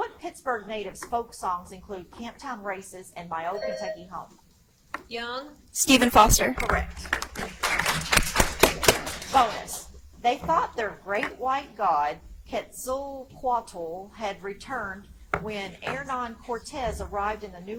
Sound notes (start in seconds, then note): 3.5 buzzer chimes; 7.4 audience applauds